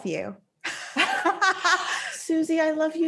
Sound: both laughing

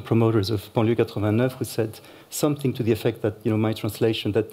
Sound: french

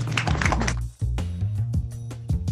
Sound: applause

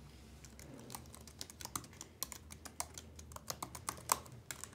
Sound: keyboard clicking

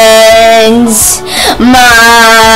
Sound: sharp breath intake

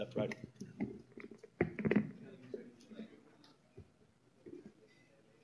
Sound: microphone Echo

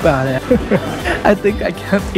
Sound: chuckle

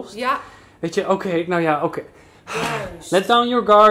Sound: sigh

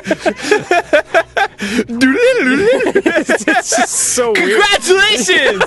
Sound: Dan and Arin laugh; Arin and Dan laugh

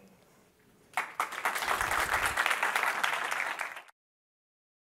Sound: applause

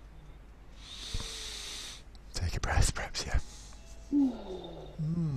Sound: sighs

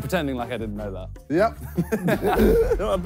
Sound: laughs

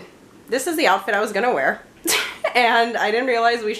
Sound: laughs

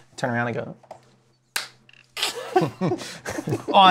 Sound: laughter

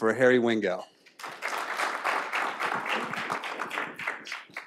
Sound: applause

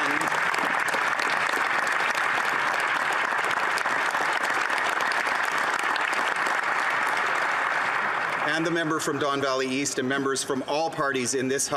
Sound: applause

